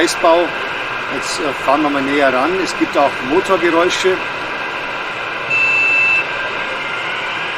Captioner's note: engine sound heard - and horn sounds briefly